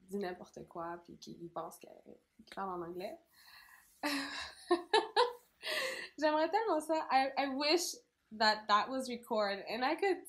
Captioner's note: laugh